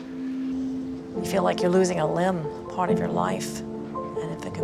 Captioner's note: voiceover